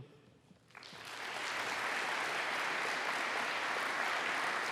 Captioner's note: applause